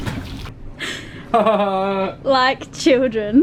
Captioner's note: chuckles